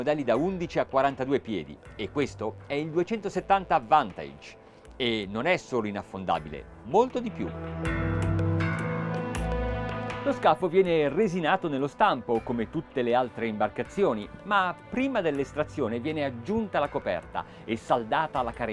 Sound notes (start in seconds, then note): 7.2 dramatic music; 11.1 speaking in foreign language